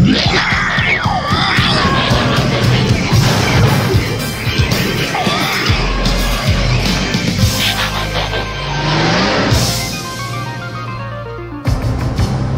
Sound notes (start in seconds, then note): 0.7 snarling; 3.6 crashing; 10.1 dramatic music